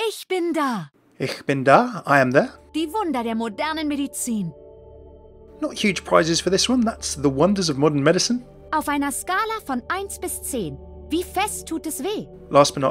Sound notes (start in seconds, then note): 0.1 Mercy speaks German; 2.2 voiceover; 3.0 Mercy speaks German; 5.8 voiceover; 8.9 Mercy speaks German; 12.7 voiceover